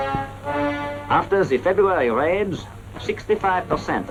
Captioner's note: German-accented voice